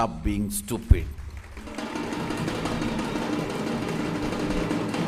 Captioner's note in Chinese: 鼓掌